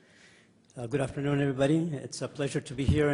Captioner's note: voiceover